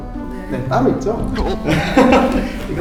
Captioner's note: gulp